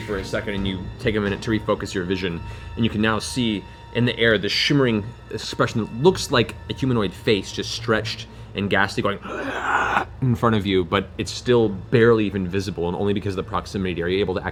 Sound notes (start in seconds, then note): 9.2 gasps